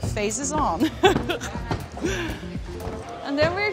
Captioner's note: laughs